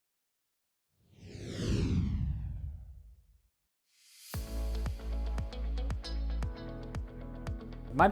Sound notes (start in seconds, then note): 1.1 logo whooshing; 4.6 upbeat music